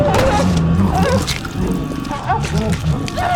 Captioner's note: groaning